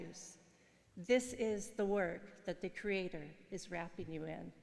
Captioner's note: speaking in foreign language